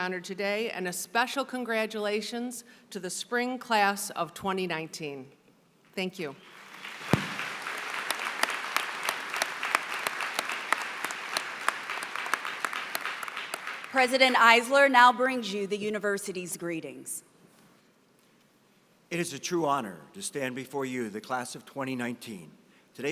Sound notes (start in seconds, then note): 6.4 applause